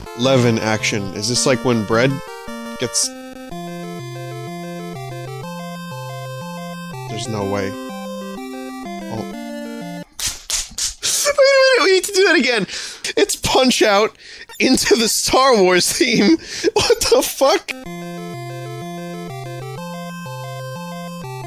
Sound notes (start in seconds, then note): 10.2 excited clapping